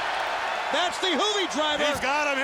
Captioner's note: audience cheers